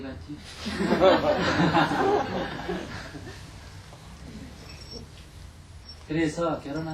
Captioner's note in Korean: 청중 웃음